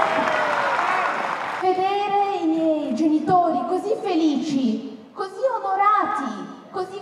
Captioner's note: in Italian